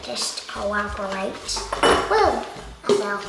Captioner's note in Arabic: خشخشه الزجاج